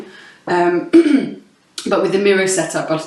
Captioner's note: clears throat